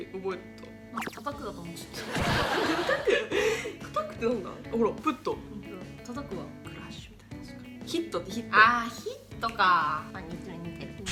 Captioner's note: smash